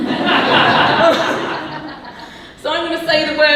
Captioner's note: audience laughing